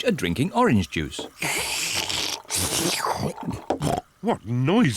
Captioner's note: both slurping